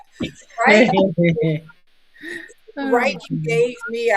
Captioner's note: all chuckling